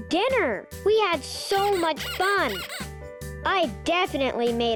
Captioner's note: pig squeaking